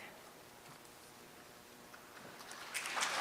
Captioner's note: applause